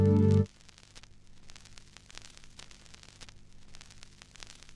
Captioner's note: static sound continues